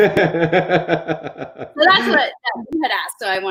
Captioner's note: chuckling